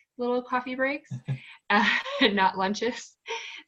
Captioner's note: laughs